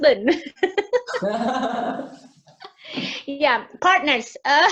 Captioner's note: laughs